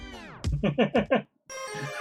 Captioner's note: laughs; friendship fanfare